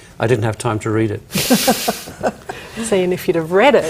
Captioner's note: chuckles